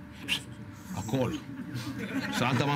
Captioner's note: laughs